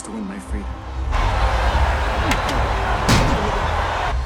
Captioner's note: crowd cheering